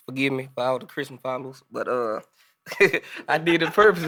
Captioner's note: group laughing